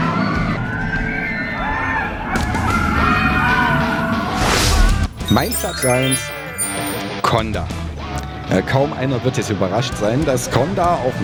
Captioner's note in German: schreien